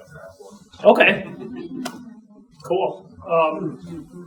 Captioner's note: audience chuckling